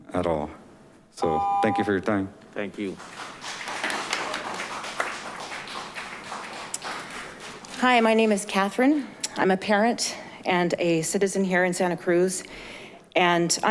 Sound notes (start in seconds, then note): 2.7 audience applauding